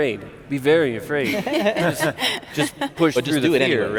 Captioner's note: laughing